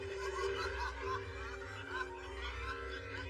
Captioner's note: both laugh